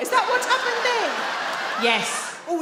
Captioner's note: audience laugh